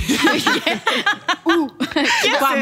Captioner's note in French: rires